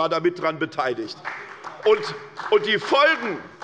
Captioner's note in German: Beifall bei der SPD